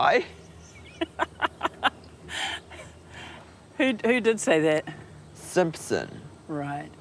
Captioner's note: laughter